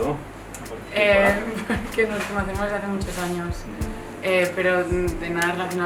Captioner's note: she laughs